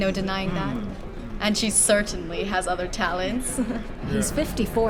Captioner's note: chuckles